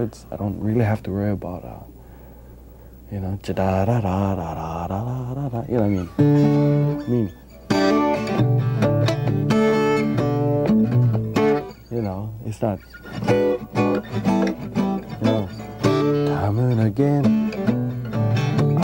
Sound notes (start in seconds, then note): 3.5 humming Hawaiian melody